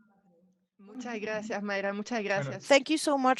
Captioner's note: speaking in Spanish